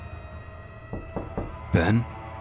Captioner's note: knocking